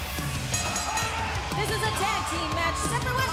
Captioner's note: bell ringing